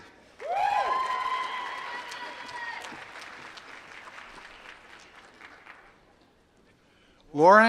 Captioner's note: applause